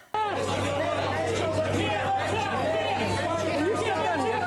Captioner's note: crowd talking